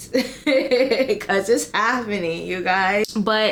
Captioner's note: laughs